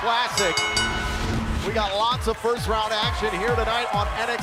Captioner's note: bell ringing